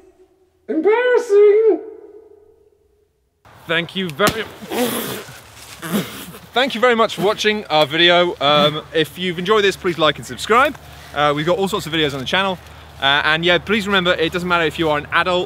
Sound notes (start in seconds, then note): 4.2 poof; 4.6 spitting